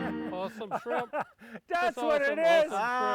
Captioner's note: laughs